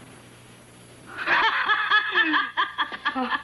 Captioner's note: laughing